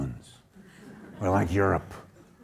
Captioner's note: audience laughing